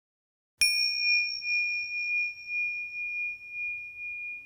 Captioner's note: bell chimes